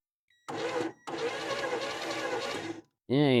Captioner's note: drill Whirring